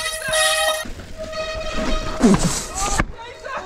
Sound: horn honking loudly

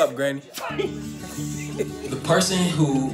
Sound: laughs

